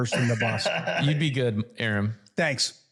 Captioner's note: laugh